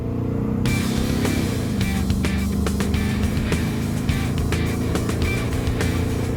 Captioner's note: car engine revving; upbeat music